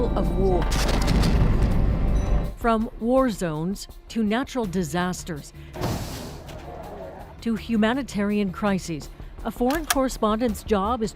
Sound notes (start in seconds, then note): 2.0 explosions; 5.8 thud